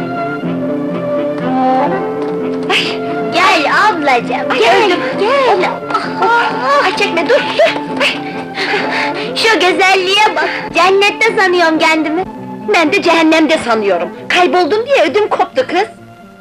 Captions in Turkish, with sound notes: - Gel ablacım, gel! - Ah, öldüm, öldüm! Ay çekme, dur, dur! [Derin soluklanma] Şu güzelliğe bak, cennette sanıyorum kendimi! Ben de cehennemde sanıyorum, kayboldun diye ödüm koptu, kız!